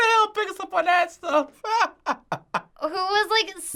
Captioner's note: laughs